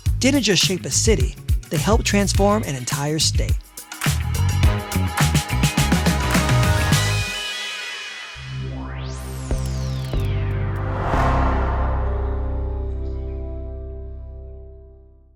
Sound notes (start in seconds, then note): 4.1 upbeat music; 8.5 graphics warbling